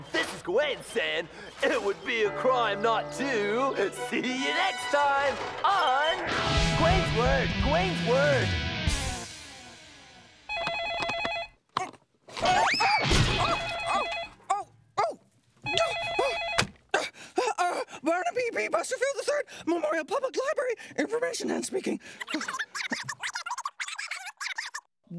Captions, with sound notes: And this is Gawain saying it would be a crime not to... see you next time on... ( phone rings ) ( cries out ) ( phone rings ) Oh, oh! ( phone rings ) Barnaby B. Busterfield III Memorial Public Library. Information Hen speaking. ( voice speaking gibberish over phone )